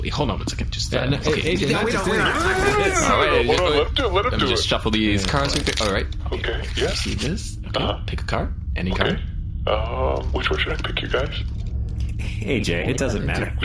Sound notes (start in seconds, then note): 4.8 shuffling